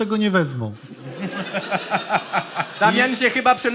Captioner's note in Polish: śmiech